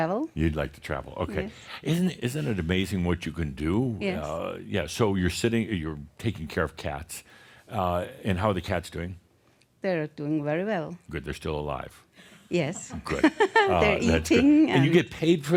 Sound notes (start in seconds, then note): 12.7 she chuckles